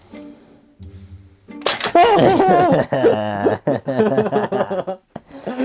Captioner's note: both laughing in glee